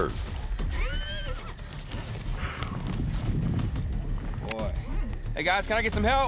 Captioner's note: horse whinnies